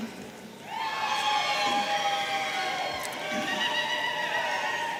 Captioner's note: audience cheering